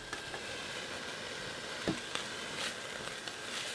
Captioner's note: oil sizzling